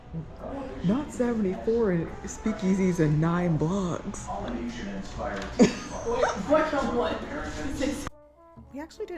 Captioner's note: laughing